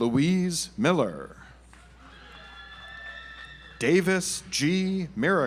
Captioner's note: audience applauds